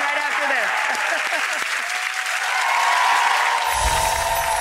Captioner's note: audience cheering